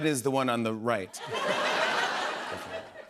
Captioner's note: laughter